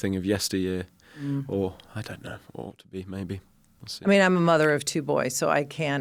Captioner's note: none